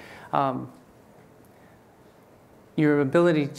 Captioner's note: none